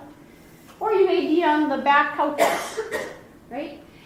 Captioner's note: coughing